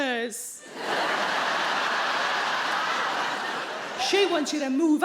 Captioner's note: audience laughing